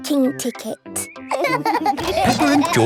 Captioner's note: laughing